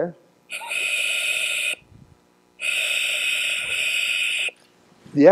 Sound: hissing exhalations

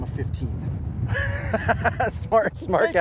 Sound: laughs

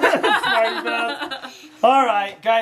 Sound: laughs

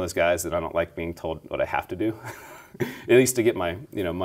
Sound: laughing

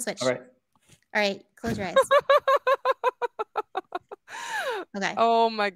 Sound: laughing

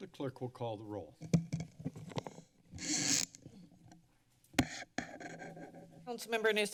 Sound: mic noise

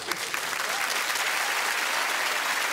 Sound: applause

